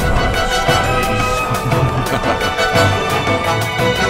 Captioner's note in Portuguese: risos